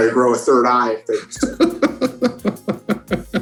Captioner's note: laughing